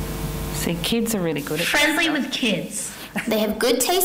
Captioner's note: audio of different kids' voices